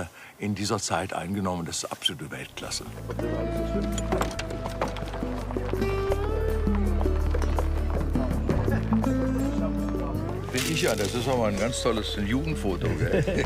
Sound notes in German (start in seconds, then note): 3.2 Ruhige Musik; 5.2 Leises Stimmengewirr